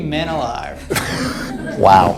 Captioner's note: audience laughs